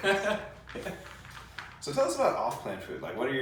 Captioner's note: laughs